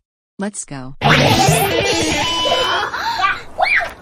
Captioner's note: kids giggling and instruments playing